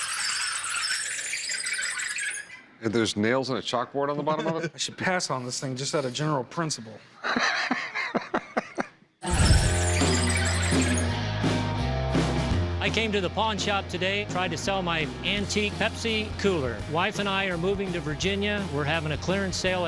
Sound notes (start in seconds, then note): 7.3 laughs; 9.2 music playing, wheels squeaking